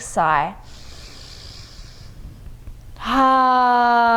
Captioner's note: inhales deeply; exhales deeply